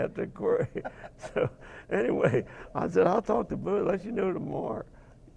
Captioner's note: laughing